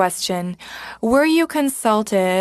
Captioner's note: speaking FRENCH